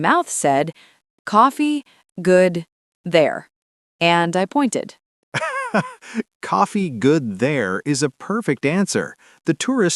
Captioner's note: laughs